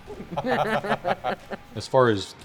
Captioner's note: laughs